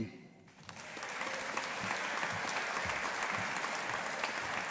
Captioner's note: audience applauding